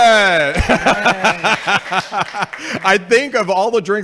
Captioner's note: laughing